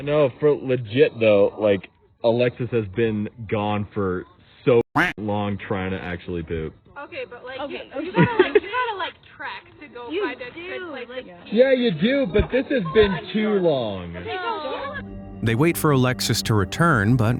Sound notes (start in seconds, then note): 4.9 quacks